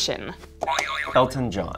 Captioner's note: springing sound